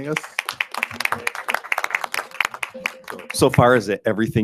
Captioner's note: group applauds